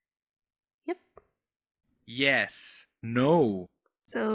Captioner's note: automated voice